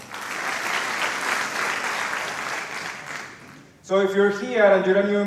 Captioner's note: applause